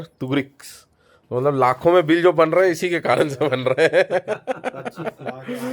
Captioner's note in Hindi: हंसी